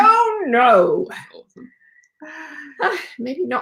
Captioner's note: laughs